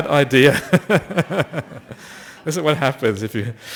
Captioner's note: laughter